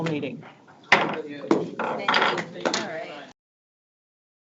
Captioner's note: gavel thuds